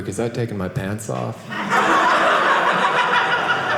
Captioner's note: audience laughing